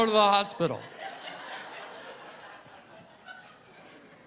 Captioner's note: laughter